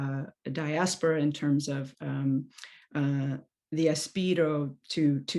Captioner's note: non-english speech